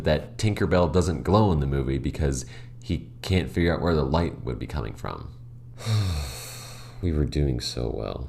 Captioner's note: sigh